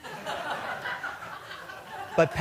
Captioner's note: laughter